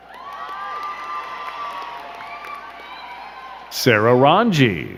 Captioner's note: crowd cheering and clapping